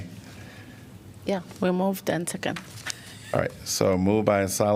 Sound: laughter

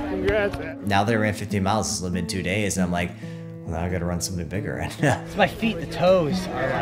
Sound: laughs

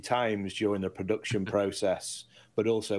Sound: host chuckling

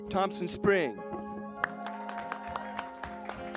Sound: cheers and applause

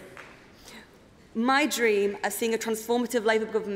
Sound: applause

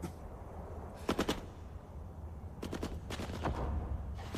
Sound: gunfire

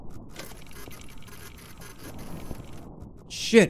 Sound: machine whirring

